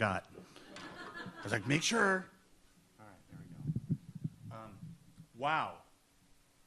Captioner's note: audience laughs